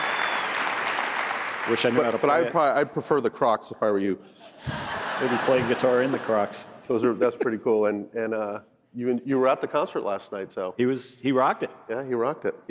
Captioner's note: applause